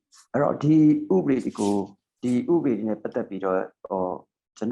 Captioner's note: speaking burmese